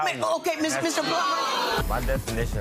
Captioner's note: audience jeers